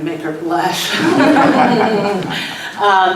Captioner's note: laughs